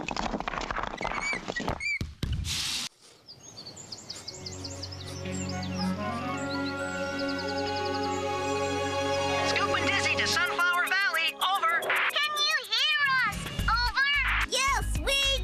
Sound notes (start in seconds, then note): 0.0 bricks Clattering; 4.2 bird Singing